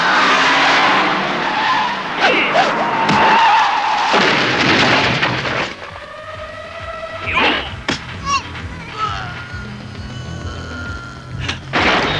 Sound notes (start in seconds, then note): 8.2 man groans